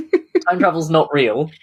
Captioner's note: laughs